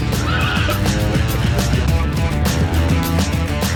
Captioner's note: laughs